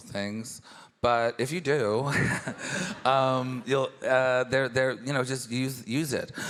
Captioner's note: laughs